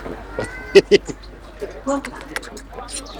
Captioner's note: laughs